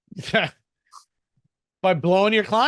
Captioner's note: laughs